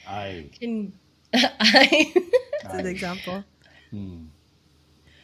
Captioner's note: laughter